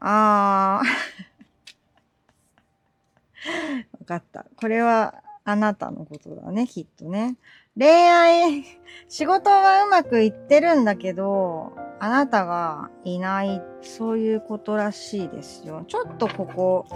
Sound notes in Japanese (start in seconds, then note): 0.7 笑い; 3.4 息をのむ音